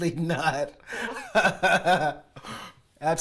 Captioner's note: laughter